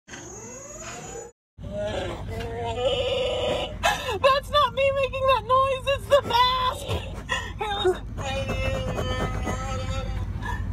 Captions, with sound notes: (Chewbacca Roar) That’s not me making that noise it’s the mask! (Laughing) (hysterical laughing)